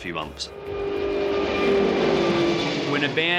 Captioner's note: plane engine roars